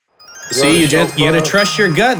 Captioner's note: correct happy sound